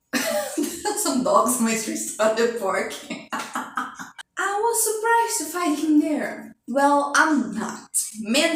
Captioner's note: laughs